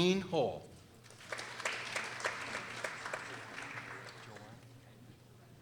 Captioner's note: people applauding